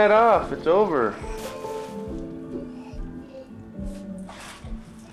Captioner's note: paper rustling